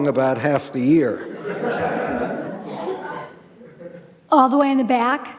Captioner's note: audience laughing